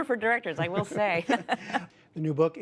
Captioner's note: laughter